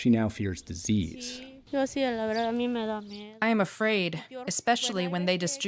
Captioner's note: through translator